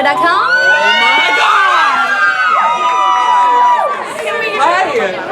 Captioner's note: cheers